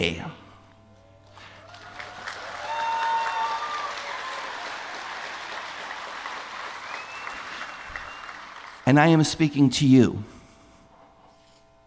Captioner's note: applause